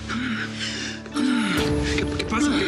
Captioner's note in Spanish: respiración agitada